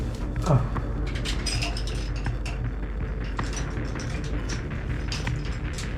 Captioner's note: metal banging; grunting